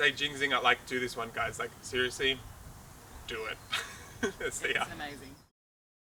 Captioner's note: laughs